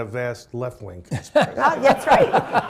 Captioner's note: laughter